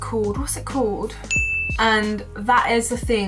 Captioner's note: bell chiming